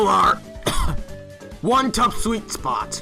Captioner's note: coughs